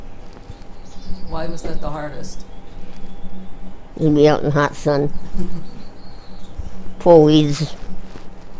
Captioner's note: chuckles